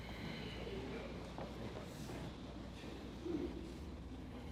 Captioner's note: attendees murmuring